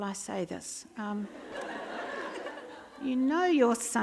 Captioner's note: laughter